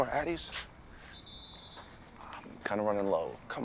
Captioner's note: distant whistle screeching